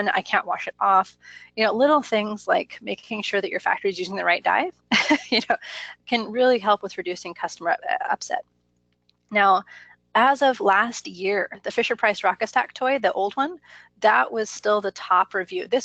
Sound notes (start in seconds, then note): 5.4 laughs